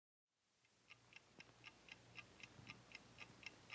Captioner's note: clock ticking